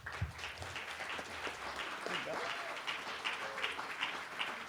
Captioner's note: applause